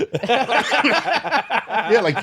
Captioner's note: laughing